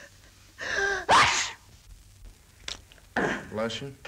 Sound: sneezes

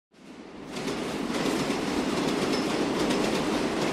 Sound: subway running

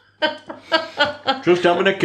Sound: slightly hysterical laughter

